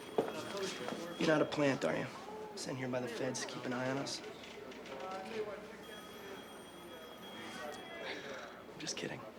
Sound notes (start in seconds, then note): 7.6 laughing